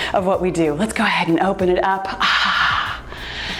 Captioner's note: sighs